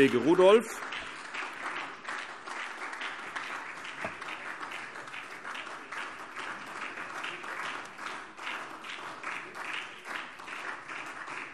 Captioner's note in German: Weiterhin anhaltender Beifall SPD